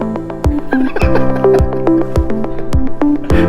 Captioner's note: laughter